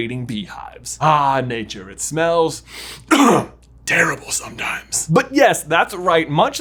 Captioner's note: coughs